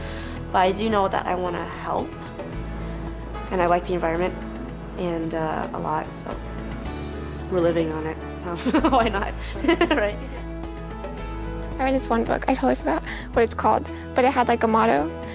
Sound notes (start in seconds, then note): 8.5 laughs